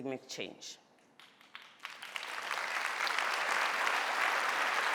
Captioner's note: audience applauding